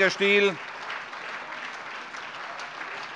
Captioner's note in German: Beifall SPD, AfD, Freie Demokraten und DIE LINKE